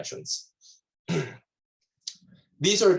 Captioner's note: clears throat